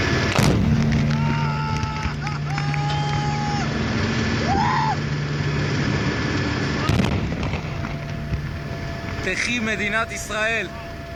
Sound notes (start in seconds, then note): 0.3 explosion; 1.2 cries of joy; 6.8 explosion